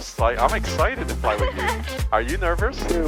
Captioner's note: laughing